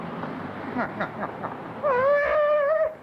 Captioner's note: laughs